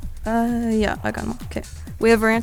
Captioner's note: wispering